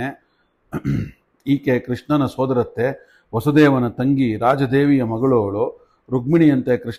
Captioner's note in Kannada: ಗಂಟಲು ಸರಿಮಾಡಿಕೊಳ್ಳುವಿಕೆ